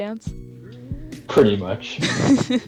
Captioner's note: gross laughter